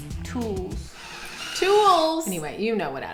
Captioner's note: screwdriver humming